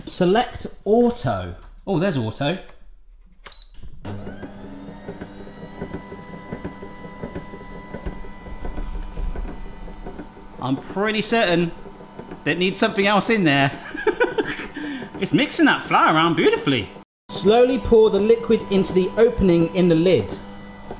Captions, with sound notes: Select auto. Oh, there's auto. (machine beeping) (machine whirring) I'm pretty certain, that it needs something else in there. (laughs) It's mixing that flour around beautifully. Slowly pour the liquid into the opening in the lid.